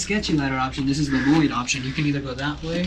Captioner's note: murmurs